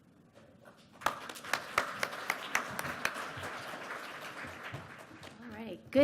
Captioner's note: applause